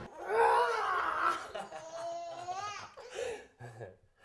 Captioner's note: baby cooing